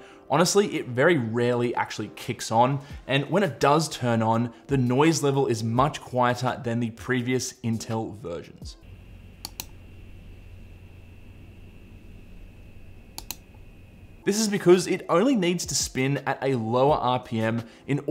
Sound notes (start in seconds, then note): 8.8 gentle fan whirring; 9.0 button clicks